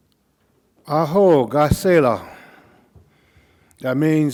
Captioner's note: speaking Cauijoga